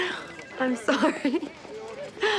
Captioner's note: laughs